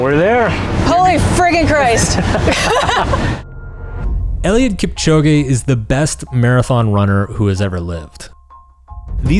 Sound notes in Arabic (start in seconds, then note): 1.8 الجميع يضحكون